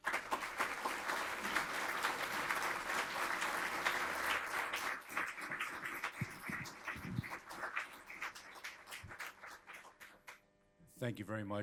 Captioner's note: applause